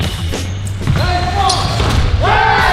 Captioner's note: sneakers screech; upbeat orchestral music; shooter murmurs